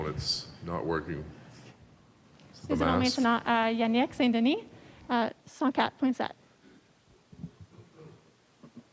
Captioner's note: speaking French